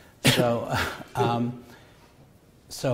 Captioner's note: chuckles